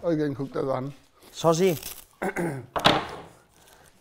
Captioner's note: Räuspern